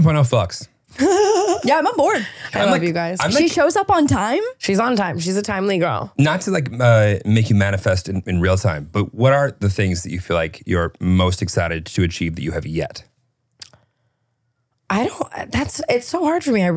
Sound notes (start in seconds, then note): 0.9 Tana laughing